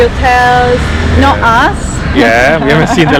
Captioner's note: laughing